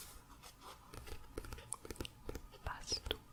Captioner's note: tapping on pages